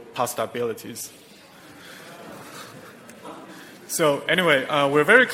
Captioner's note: audience laughing softly